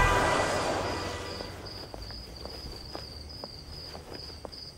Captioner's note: Footsteps